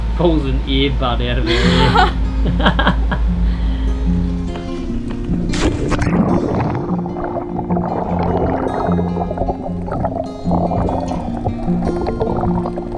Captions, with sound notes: Pulls an ear bud out of her ear. (both laugh) (soothing guitar music) (water splashes) (air bubbling underwater)